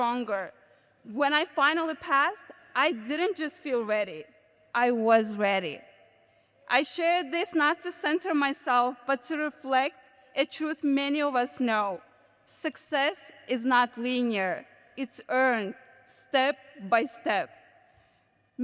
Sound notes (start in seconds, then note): none